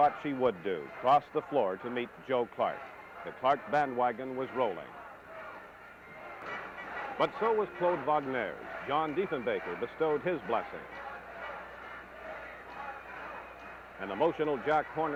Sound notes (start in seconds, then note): 6.0 crowd noise; 12.5 crowd noise